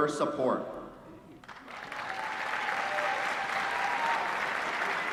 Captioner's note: applause